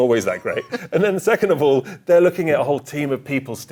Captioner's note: chuckling